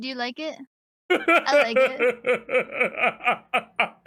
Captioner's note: laughs